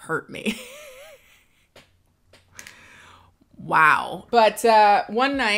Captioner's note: laughs